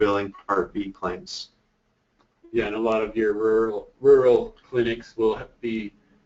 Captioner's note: voiceover